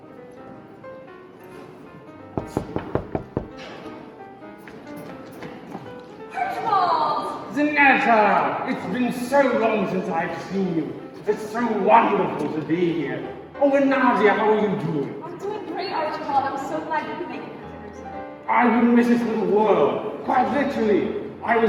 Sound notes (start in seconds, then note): 2.3 knocking